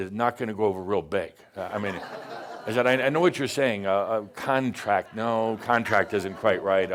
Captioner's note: some chuckles